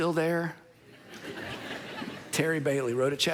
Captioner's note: congregation laughing